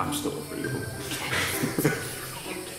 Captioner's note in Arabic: يضحك